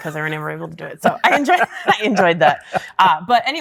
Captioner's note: guy laughing